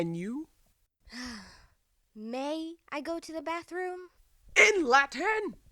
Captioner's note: sigh